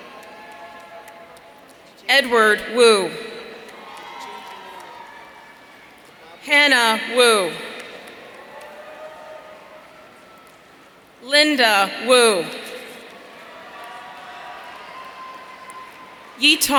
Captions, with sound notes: Edward Wu. (audience cheering) Hanna Wu. (audience cheering) Linda Wu.